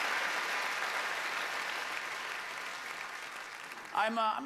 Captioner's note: applause